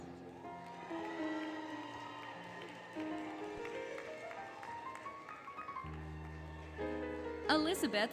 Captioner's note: applause, Cheering, Music